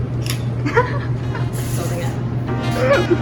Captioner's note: laughing